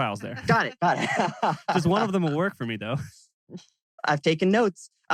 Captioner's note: laughs